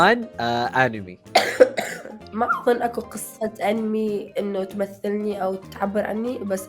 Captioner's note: coughs